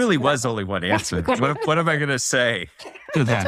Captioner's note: laugh